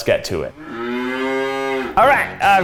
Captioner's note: cow moos